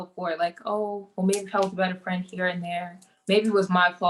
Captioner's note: mutters